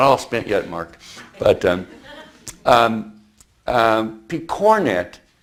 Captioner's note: audience chuckles